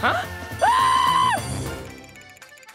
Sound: screaming

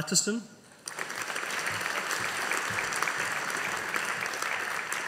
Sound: audience applauding

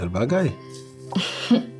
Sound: giggles

